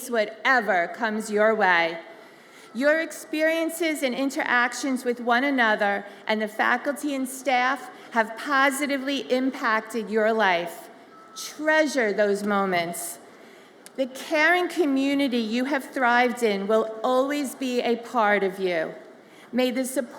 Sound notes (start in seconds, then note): none